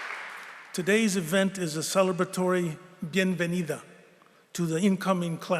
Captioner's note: spanish